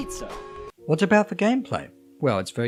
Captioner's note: voiceover